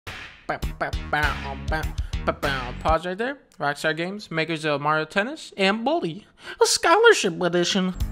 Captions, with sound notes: (Humming with music) Pause right there. Rockstar Games, makers of Mario Tennis and Bully: Scholarship Edition!